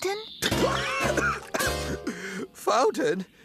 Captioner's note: coughing and Choking